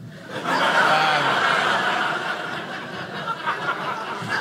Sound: audience laughing

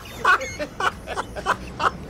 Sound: laughs

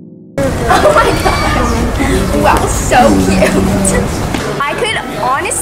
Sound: laughs

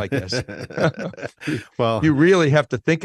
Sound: both laughing

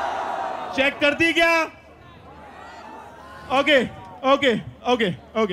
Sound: non-english speech

